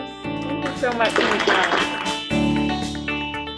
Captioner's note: applause